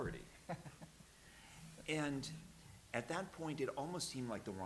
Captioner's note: chuckles